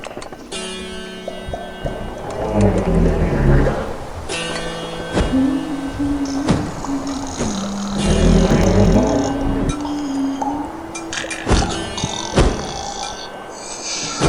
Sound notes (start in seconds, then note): 2.0 turtle snort; 7.0 Goblin snores; 9.0 turtle snort; 11.1 snoring